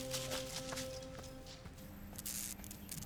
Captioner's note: pensive music; leaves rustle; light buzzing